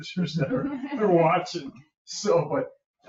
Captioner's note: group laughing